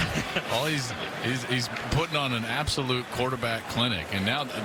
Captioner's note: laughter